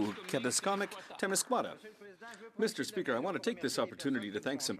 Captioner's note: speaking French